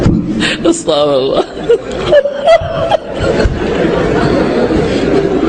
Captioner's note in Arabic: ضحك